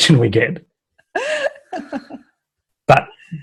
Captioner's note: laughs